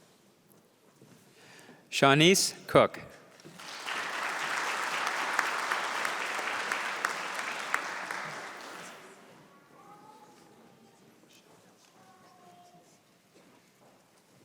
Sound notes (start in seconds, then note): 3.3 applause